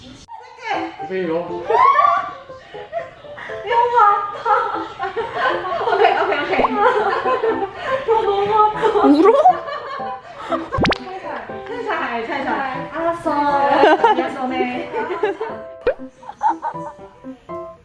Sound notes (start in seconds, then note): 8.8 she’s really crying